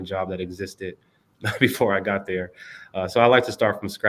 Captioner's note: laughter